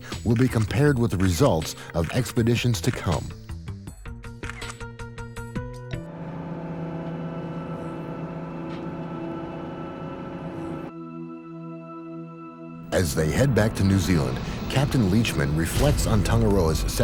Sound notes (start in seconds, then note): 4.4 camera shutters; 6.0 engines humming